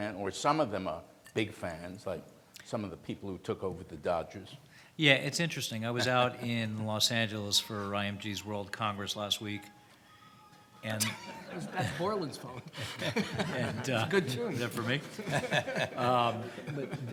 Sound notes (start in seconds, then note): 11.0 laughs